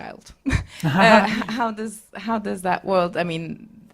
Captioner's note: laugh